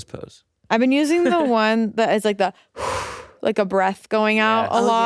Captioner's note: blows